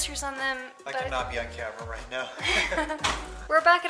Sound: laughter

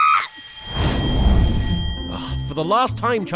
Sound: bell ringing

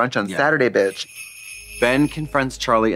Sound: sleigh bells jingling

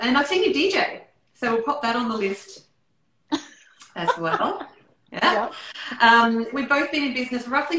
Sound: laughter

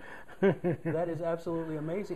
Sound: laughter

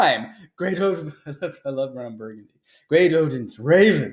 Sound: chuckles

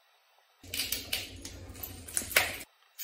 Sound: glass crunching underfoot

